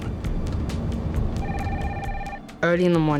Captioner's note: phone ringing